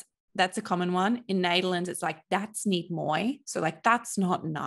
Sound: speaking in foreign language

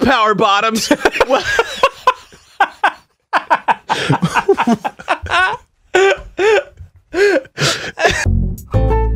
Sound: both Laughing

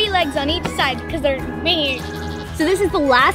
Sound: makes a funny noise

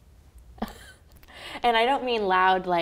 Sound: laughs

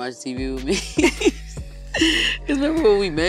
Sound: laughing

